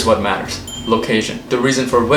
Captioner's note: ring of a bell